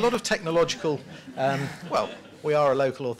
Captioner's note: laughter